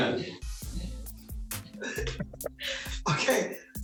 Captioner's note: laughs